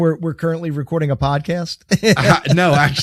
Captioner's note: chuckling